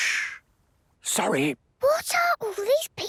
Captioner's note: whispering; quietly